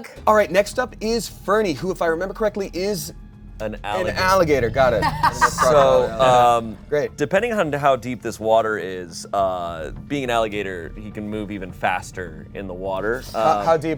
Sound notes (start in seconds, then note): 4.6 laughs